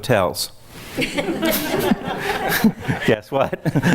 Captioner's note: laughs